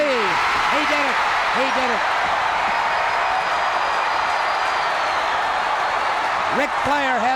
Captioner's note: crowd cheers